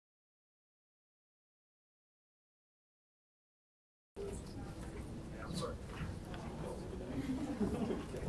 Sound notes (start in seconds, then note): 4.2 audience conversing